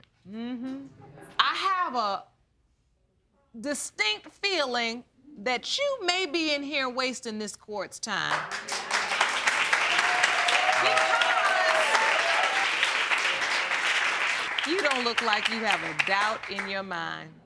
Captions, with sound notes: Mmm-hmm. I have a distinct feeling that you may be in here wasting this court's time. (APPLAUSE) Because... You don't look like you have a doubt in your mind.